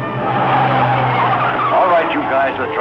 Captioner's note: tires screeching